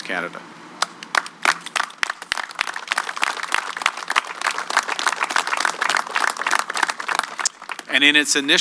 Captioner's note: applause